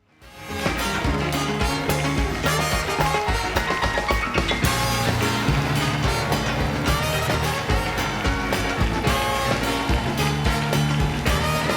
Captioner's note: applause